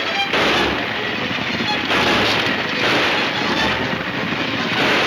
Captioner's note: gunshots banging